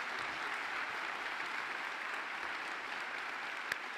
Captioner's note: applause